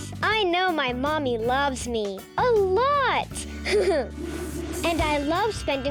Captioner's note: giggles